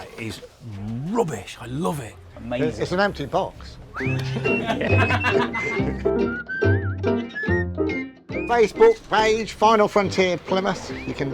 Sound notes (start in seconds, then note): 4.0 all laughing; 5.5 upbeat whistling music